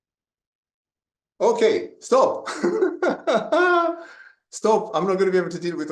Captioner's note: laughs